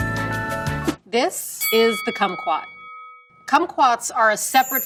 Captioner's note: bell dings